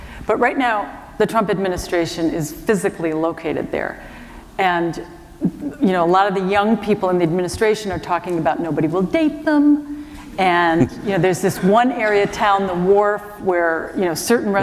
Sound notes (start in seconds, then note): 10.8 chuckle; 10.8 laughter